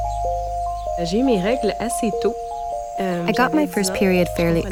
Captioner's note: speaking French with translation